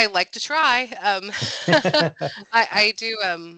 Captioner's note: chuckles